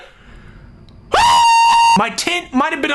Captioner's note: screaming